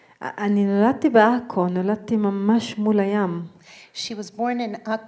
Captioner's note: speaking in foreign language